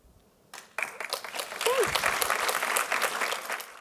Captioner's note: applause